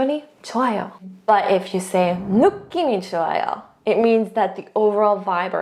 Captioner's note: speaking in Korean; speaks in Korean